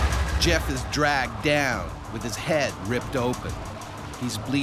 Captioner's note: voiceover